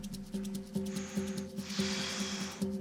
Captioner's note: exhales